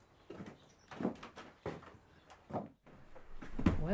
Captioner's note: door rattling